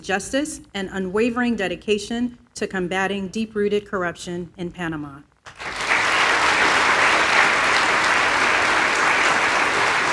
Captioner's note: applause